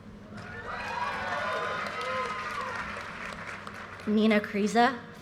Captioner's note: audience cheers and applause